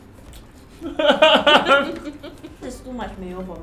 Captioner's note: laughs